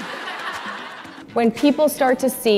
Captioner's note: audience laughing